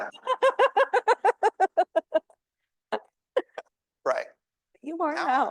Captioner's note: laughing